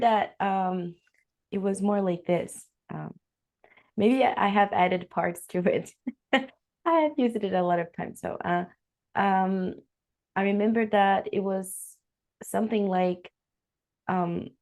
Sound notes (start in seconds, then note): 8.0 risos